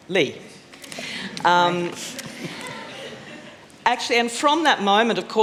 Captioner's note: laughter